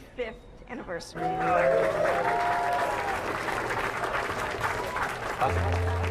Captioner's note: cheering